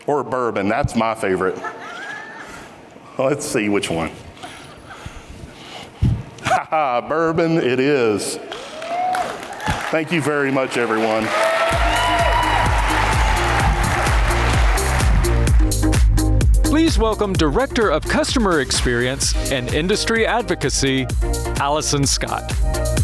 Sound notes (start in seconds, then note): 1.4 audience chuckles; 8.6 audience cheering; 11.4 audience applauding; 12.5 upbeat music